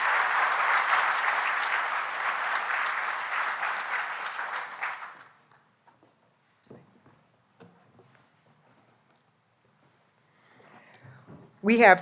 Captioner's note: applause